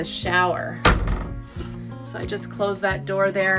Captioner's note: door closes